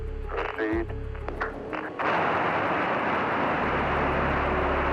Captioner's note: boosters firing